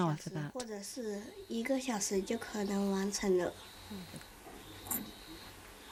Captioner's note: speaking in foreign language